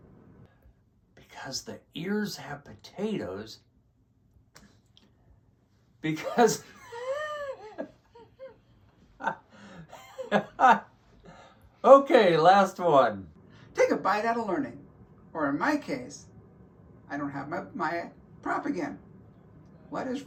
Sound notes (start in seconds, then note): 6.1 laughs